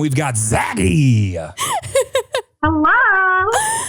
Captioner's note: laughing